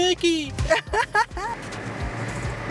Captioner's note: laughs